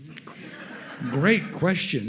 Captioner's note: audience laughs